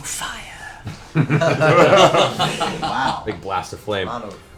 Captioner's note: laughter